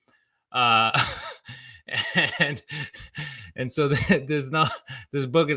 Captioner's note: laughs